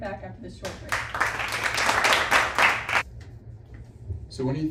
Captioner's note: clapping